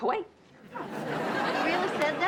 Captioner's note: audience laughs